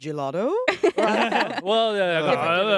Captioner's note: everyone laughs